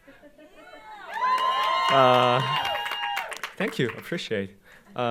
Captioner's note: audience applauding